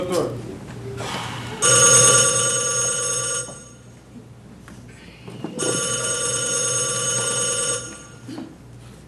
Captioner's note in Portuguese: telefone tocando